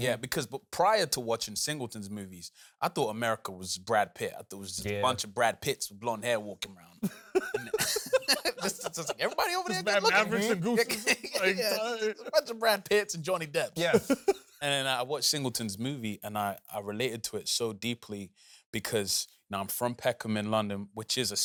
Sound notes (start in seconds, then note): 7.0 laughs; 13.7 laughs